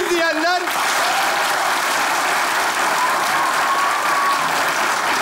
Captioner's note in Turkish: Alkış sesleri